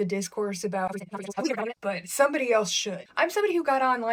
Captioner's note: fast forwarded speech